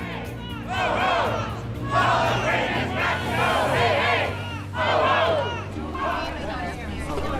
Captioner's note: chanting protesters